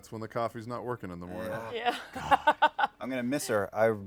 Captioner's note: laughs